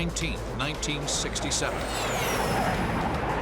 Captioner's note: jet engine noises